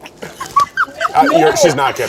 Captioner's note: laughs